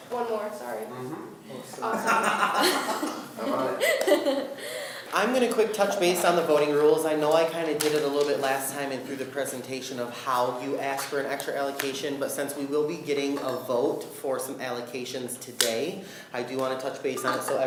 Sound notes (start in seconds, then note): 1.8 laughing